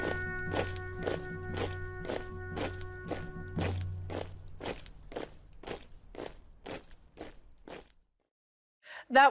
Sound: soldiers marching

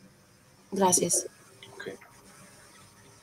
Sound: speaking in foreign language

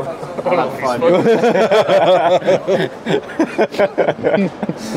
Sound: all laugh

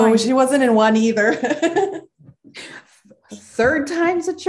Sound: laughing

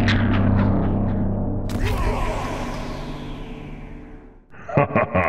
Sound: Baraka victory roar from mortal kombat 11

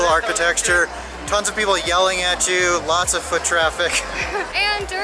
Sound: laughs

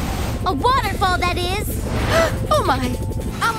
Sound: gasping

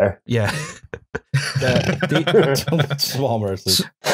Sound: laughter; laughs

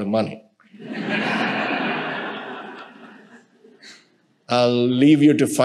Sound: audience laughing

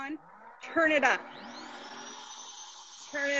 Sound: humming

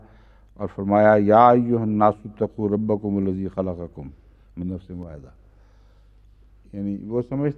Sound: Arabic

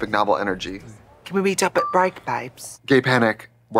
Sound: British accent

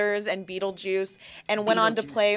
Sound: laughs

